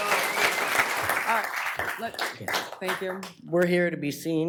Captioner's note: applause